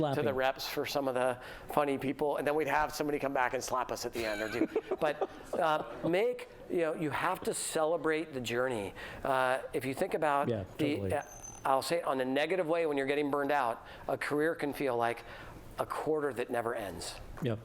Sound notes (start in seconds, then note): 4.1 laughter